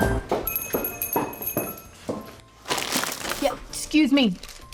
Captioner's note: footsteps; doorbell jingles